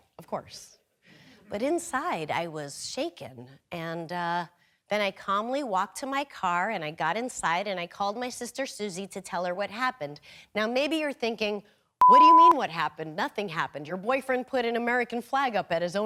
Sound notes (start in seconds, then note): none